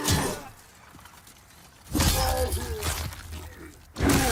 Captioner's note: character grunts